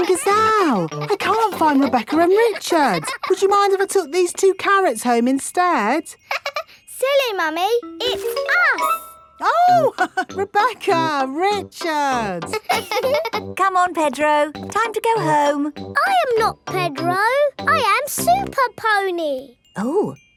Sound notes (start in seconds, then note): 6.6 laughs; 12.1 both laughing; 12.2 chuckles